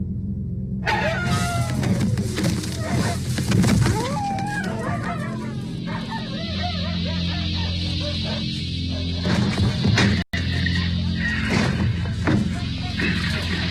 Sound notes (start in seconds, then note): 0.7 dog Suddenly Barks; 4.7 dogs Howling and Barking